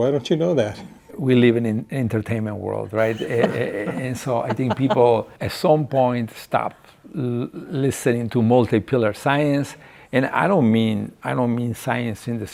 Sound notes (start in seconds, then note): 3.0 laughing